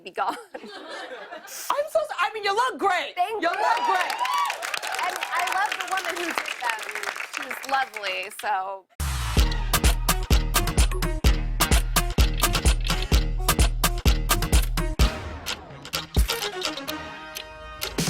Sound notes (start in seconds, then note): 0.2 laughter; 3.4 cheers and applause